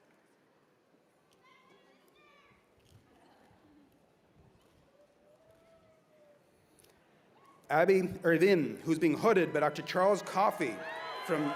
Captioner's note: cheers and applause